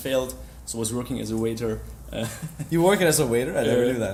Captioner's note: laughs